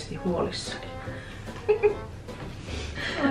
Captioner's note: giggles